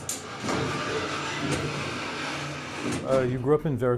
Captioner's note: mechanical sounds